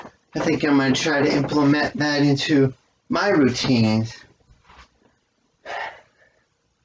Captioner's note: exhales